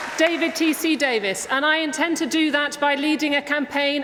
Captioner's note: applause